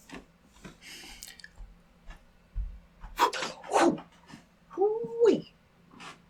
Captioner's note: makes sound of blowing, and catching the ball